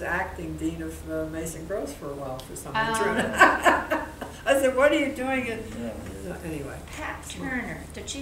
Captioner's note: laughing